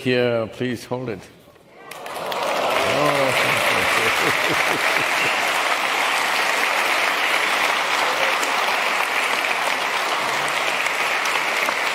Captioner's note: laughs; cheering/Applause